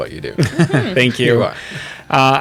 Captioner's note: laughs